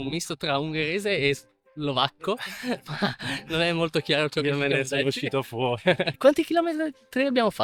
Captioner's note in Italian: risate